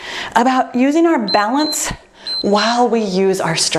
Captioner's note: timer beeps